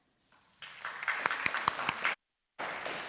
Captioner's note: applause